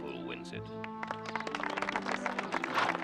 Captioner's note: Tepuk tangan